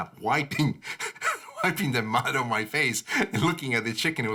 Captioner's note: laughs